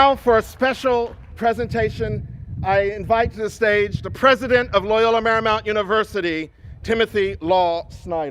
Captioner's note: cheers and applause